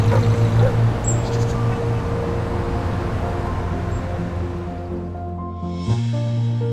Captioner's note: truck passing, dog barking; bird chirping, street noise